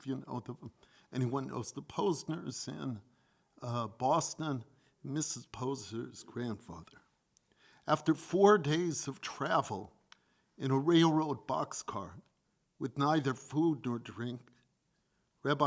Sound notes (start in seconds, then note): none